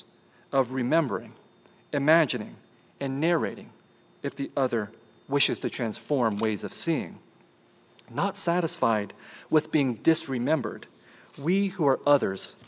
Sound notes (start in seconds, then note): none